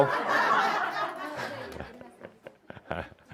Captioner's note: laughter